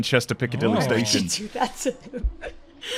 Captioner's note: laughing